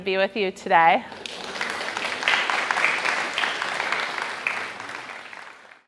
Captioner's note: audience applauding